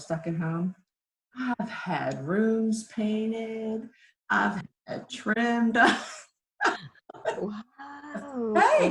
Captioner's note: laughs